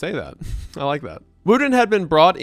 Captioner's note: chuckles